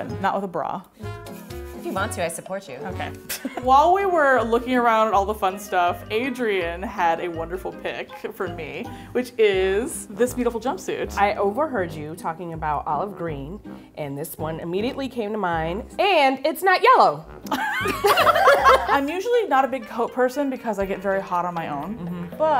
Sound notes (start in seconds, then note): 17.5 laughing